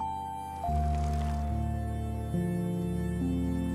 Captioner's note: bike rattling